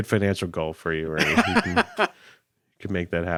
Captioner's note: laughing